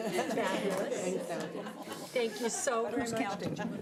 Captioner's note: audience laughing